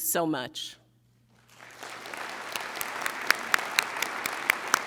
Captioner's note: audience applauding